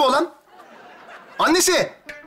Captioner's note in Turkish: Gülme efekti